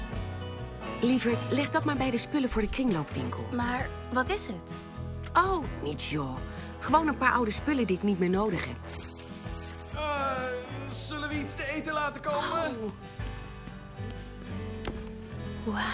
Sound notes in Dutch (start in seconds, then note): 8.9 glas breekt